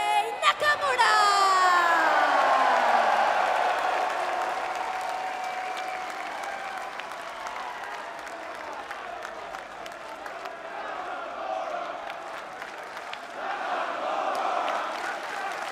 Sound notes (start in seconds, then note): 0.3 crowd cheering